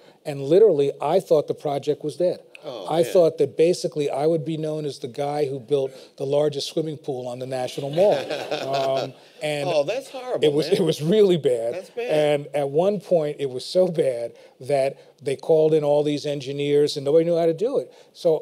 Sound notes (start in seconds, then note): 7.8 laughter